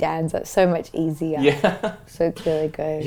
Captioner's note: laughs